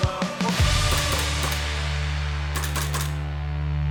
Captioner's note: gun clicking